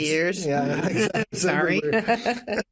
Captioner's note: chuckles